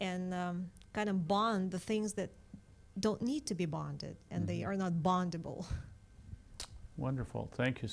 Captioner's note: laughs